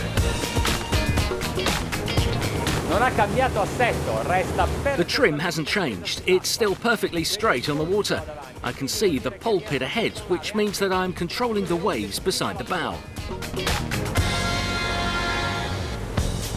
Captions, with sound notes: (speaking in foreign language) The trim hasn't changed. It's still perfectly straight on the water. I can see the pulpit ahead, which means that I am controlling the waves beside the bow. (upbeat rock music)